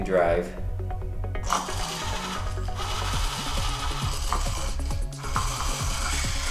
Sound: whirrs

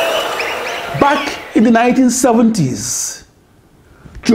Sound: wild applause and cheering for 22 seconds

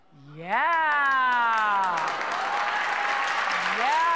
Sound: applause

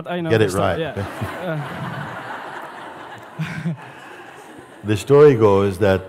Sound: laughter

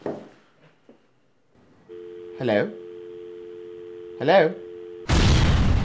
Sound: dialtone

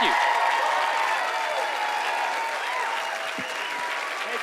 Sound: cheering and applause

